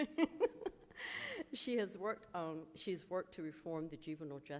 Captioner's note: laughs